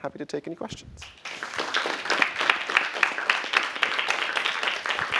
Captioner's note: applause